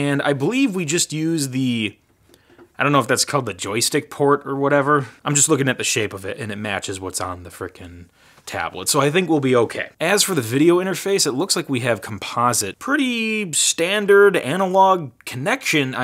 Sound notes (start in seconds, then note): none